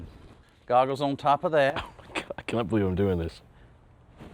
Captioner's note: chuckles